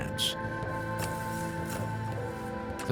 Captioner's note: digging